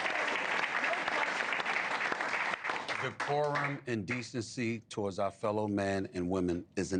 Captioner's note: applause